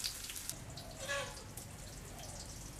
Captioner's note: chicken sounds